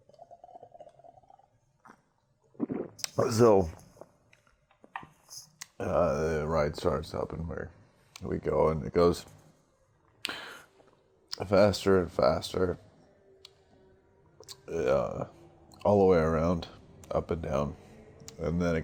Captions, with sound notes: (SWIGS) (GULPS) So... Uh, the ride starts up and we're, we go... it goes faster and faster uh, all the way around, up and down